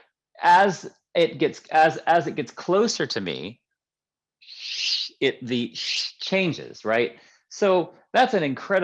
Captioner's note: hiss